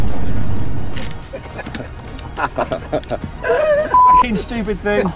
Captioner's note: laughing cause they're useless at this